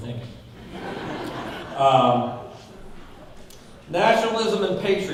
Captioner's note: audience laughing